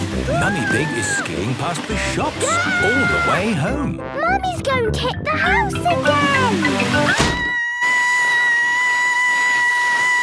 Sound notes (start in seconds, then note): 7.1 Mummy Pig screaming